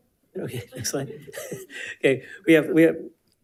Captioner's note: chuckles